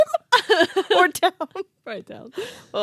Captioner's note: laughing